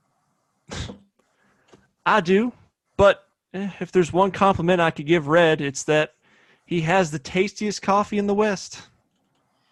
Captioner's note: scoffs